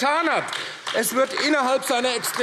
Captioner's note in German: Beifall AfD